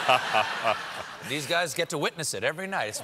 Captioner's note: laughter